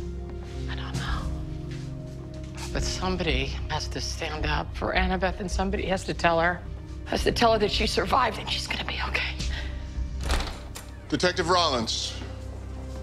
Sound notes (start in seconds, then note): 10.2 door opens